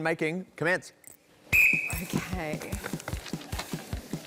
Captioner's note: blows whistle